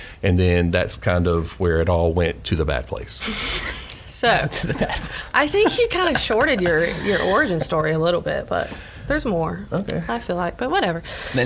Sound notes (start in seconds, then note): 4.3 laughs